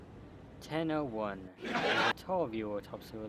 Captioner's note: hehehaha